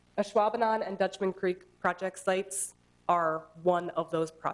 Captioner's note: none